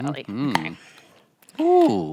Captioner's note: lid pops